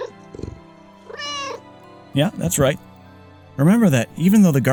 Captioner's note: meow